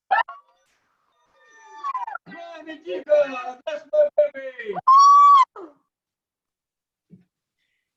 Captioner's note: cheering